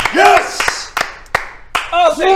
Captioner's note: amazed applause